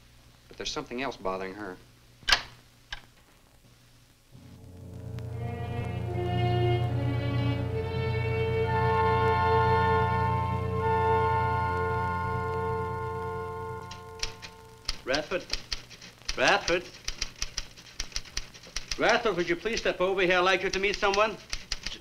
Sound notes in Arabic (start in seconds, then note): 2.3 يغلق الباب; 4.3 موسيقى أوركسترالية مشؤومة; 14.8 صوت طقطقة الآلة الكاتبة